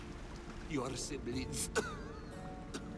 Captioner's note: cough